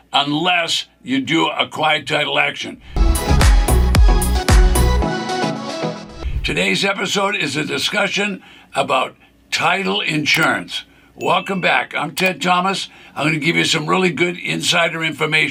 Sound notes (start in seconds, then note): 2.9 upbeat music; 6.9 graphic whooshes; 11.2 bell rings